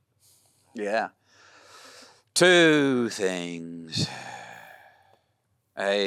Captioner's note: sighs